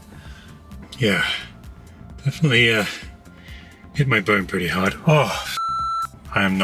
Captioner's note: beep